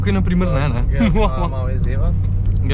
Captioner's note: laughs suspiciously